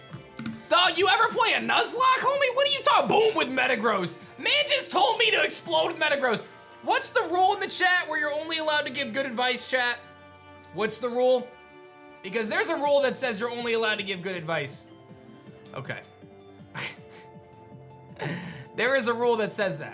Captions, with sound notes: Dog, you every play a Nuzlocke, homie? What are you talking Boom with Metagross? Man just told me to explode Metagross. What's the rule in the chat where you're only allowed to give good advice, chat? What's the rule? Because there's a rule that says you're only allowed to give good advice. Okay. (chuckles) There is a rule that says that.